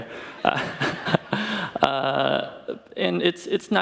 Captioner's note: audience laughs